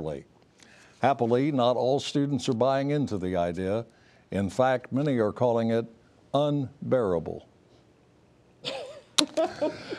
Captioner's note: laughter